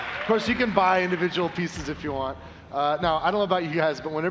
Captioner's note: applause